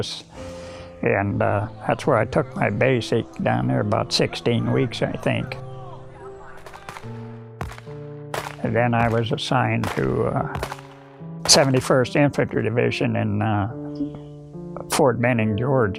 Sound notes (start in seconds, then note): 4.7 guns firing; 4.7 men shouting